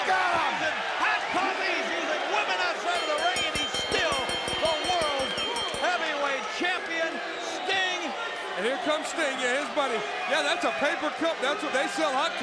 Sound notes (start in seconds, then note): 4.4 bell ringing